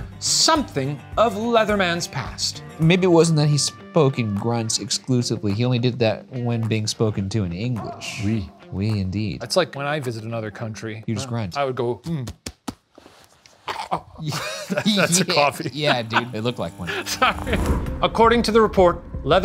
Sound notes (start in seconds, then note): 13.7 grunting; 17.2 laughs